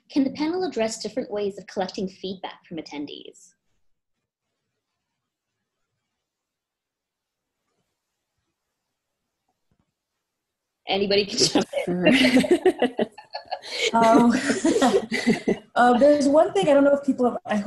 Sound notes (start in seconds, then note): 11.3 laughs